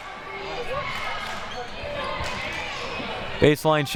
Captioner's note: clapping